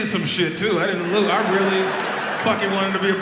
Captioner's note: audience laughs